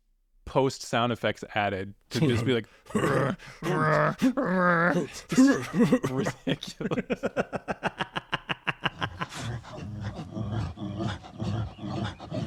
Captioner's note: imitating bear: Rah rah